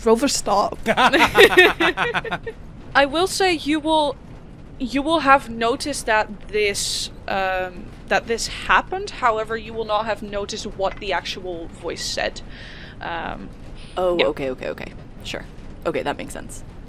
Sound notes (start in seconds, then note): 0.8 laughter; 13.1 metallic tapping